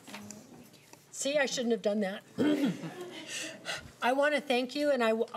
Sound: clearing throat

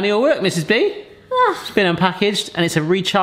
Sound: aahh

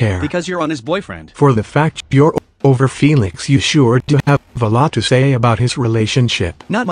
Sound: glitching

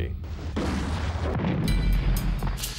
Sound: explosion

